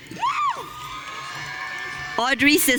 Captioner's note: audience cheering